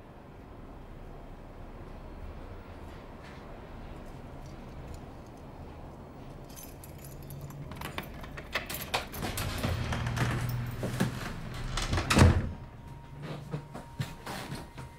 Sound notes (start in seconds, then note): 7.1 lock opening; 12.7 footsteps thudding